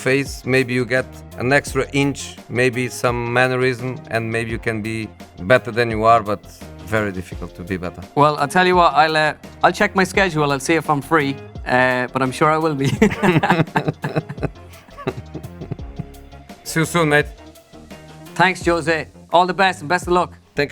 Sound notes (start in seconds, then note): 12.8 both laugh